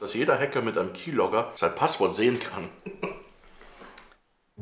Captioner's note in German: kichert